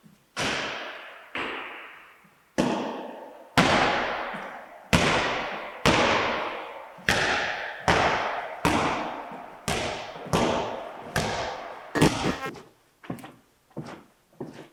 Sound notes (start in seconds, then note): 4.0 ball bouncing; 12.5 static crackles